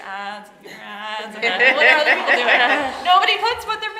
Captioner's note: audience laughing